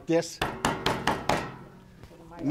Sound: pounding on table

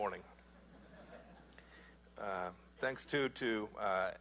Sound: laughter

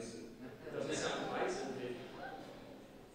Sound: people laughing

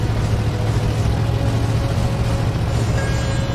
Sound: car engines rumbling

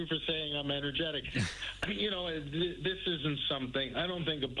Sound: laughter

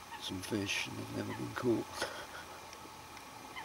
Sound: laughter

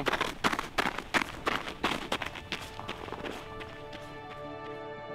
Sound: snow squelching; calm ethereal music

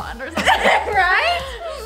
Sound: laughs

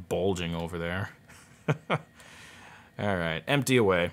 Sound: chuckles

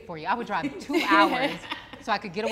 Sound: all laugh

